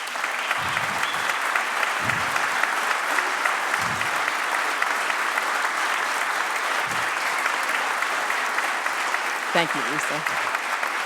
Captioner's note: applause